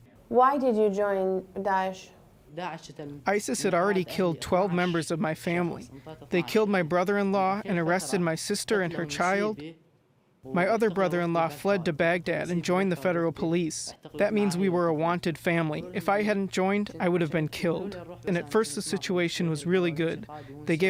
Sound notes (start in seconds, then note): 2.8 through translator